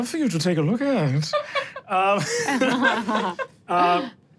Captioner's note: everyone laughs